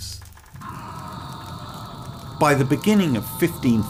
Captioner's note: screams